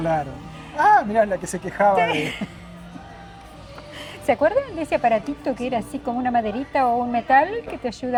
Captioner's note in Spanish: risas